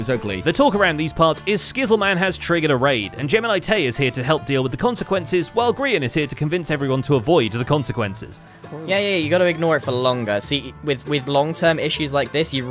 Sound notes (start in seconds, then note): none